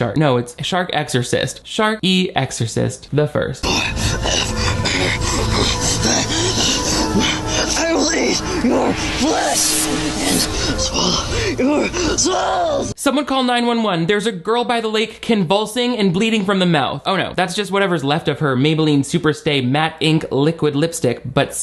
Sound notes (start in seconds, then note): 3.6 growls